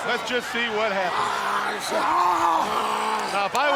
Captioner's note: wrestlers screaming